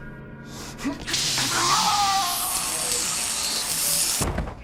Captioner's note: sound of extreme electrical current